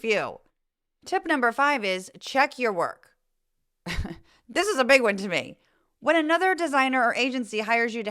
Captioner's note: laugh